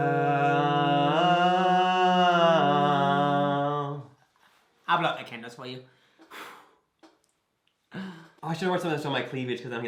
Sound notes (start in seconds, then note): 6.2 blows